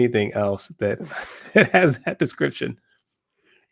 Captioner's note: laugh